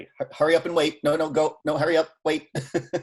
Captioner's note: laughing